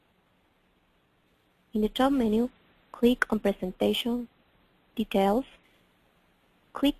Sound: pause

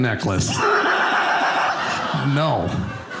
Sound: audience laughing

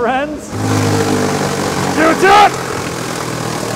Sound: loud grinding

